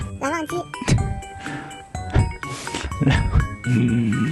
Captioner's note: laugh